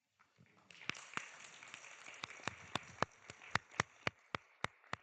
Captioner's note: audience clapping